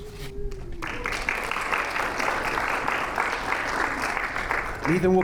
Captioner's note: audience applauding